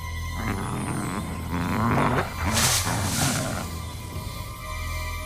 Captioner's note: growling; suspenseful music